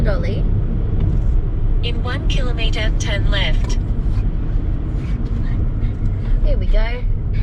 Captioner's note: dog quietly huffle puffs some more